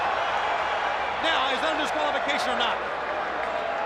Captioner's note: crowd cheering